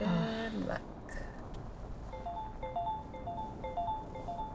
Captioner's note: phone repeatedly chiming